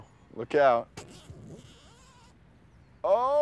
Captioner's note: zipper buzzing